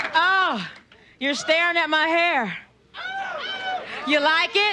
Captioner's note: audience yelling